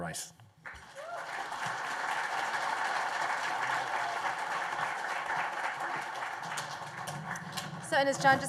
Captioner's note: applause